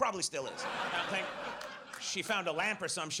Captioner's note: audience laughs